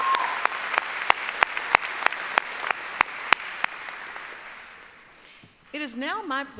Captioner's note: applause